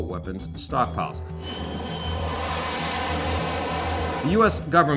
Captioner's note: jet whooshing